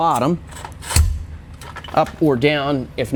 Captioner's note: hydraulic load bar clunking